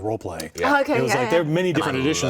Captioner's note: chatter